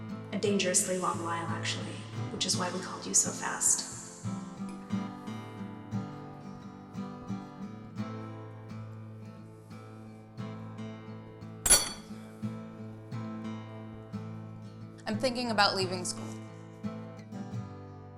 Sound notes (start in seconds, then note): 6.2 somber guitar music; 11.6 fork clangs